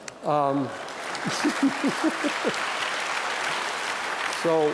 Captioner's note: applause